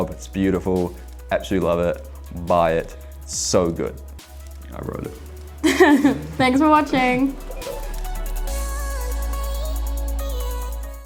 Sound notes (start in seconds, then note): 5.6 laughing; 7.6 upbeat music